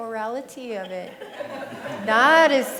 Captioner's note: laughter